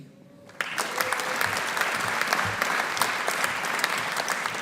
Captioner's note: audience applauding